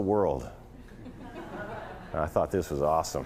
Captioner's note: laughter